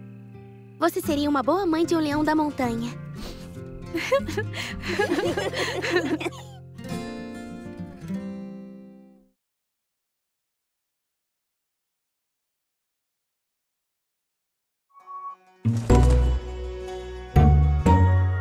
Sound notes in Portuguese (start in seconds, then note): 3.9 risos